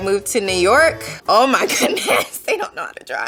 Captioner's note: laughing